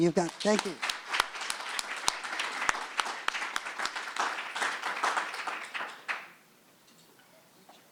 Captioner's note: applause